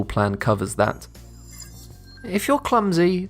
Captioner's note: futuristic ringing